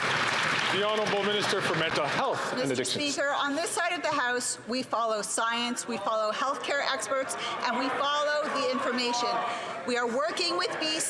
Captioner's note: some Applause